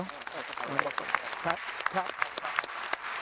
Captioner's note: audience applauding